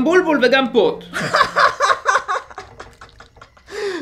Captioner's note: grandson sock laughs